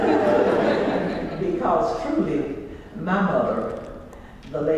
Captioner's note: laugh